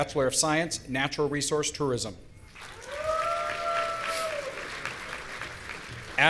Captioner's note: audience cheering